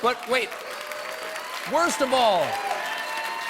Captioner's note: cheers and applause